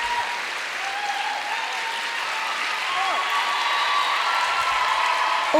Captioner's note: audience applauding; audience cheering and applauding